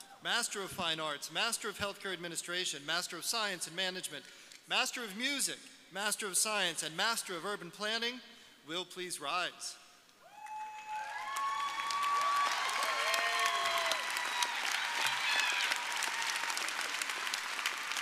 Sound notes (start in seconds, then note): 10.3 audience cheering